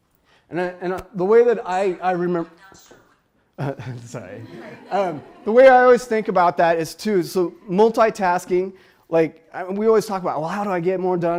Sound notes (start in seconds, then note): 2.9 phone speaks; 3.6 laughs